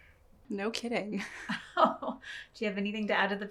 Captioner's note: chuckles